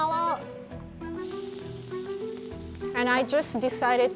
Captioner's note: sizzling